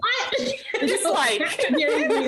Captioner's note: laughing